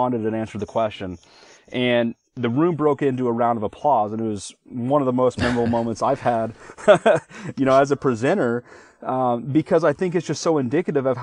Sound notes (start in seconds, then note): 5.4 laughing